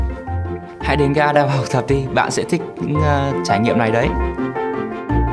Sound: Vietnamese

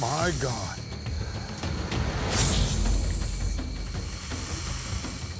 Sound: hissing

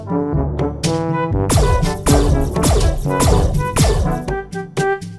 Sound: blasting

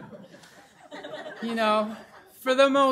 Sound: laughter

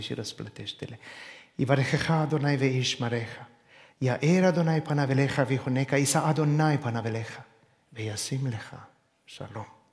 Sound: in Hebrew

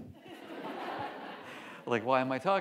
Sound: audience laughs

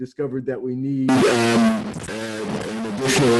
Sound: audio interference

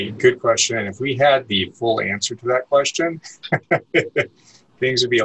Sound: laughs

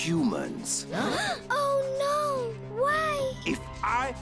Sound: all gasp

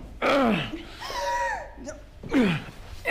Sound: Jill gasps; grunts

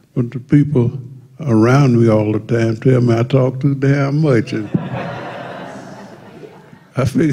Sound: laughter

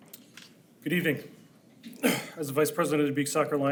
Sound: clears throat

